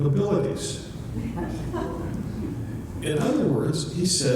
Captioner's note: audience chuckles